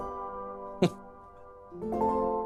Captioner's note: chuckles